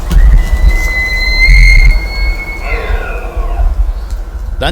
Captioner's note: elk bugle